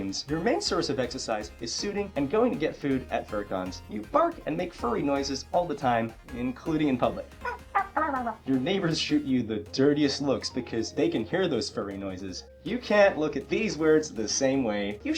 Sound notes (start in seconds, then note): 7.3 furry noises